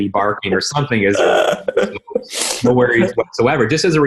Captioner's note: laughing